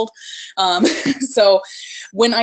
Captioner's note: laughs